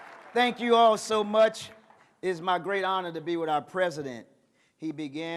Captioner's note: cheers and applause